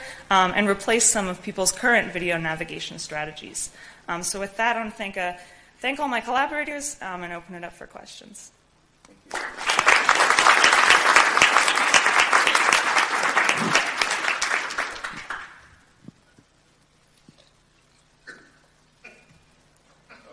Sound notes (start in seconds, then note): 9.2 audience applause